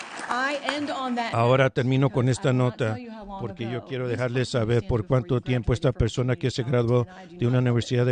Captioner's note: applause